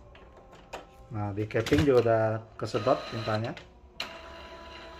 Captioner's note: printer machine sound